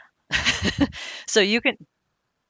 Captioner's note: laughing